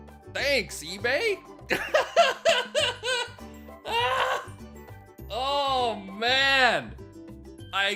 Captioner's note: laughs